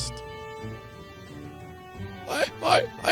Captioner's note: studdering